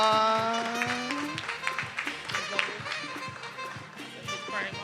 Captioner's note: attendees applauding